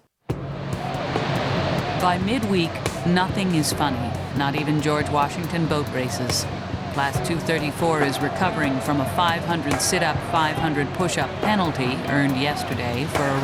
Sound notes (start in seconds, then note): 0.6 dramatic music; 2.2 voiceover